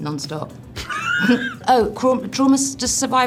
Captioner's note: laughing